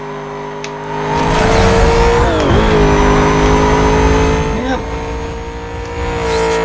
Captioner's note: nitrous oxide hisses, engine roars